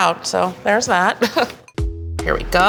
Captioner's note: chuckles